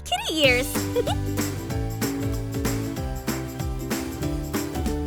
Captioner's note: chuckles